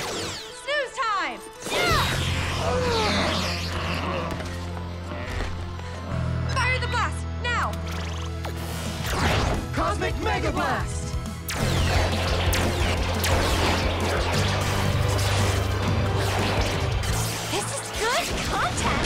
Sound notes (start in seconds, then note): 2.6 Zentinals groan